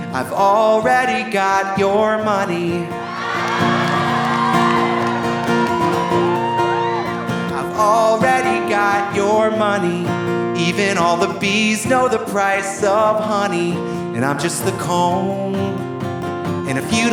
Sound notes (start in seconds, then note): 3.0 audience cheering; 3.0 audience applauding